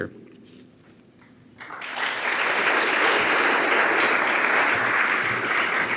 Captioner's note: audience applauding